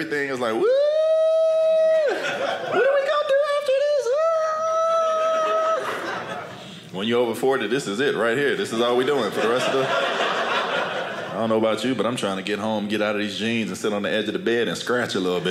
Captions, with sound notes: is like whoooo. (cheering) When you're over 40, this is it right here. This is all we're doing mostly. I don't know about you, but I'm trying to get home, get out of these jeans, and sit on the edge of the bed, and scratch a little bit.